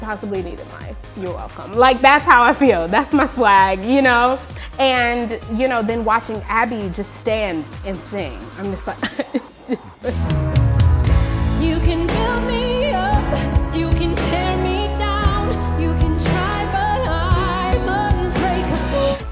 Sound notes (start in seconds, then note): 8.8 crying